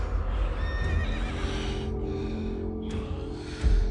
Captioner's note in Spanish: Relinchos